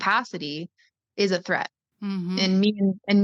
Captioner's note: mmhmm